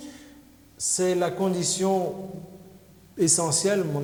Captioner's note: speaking french